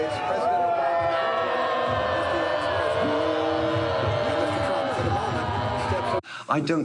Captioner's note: screams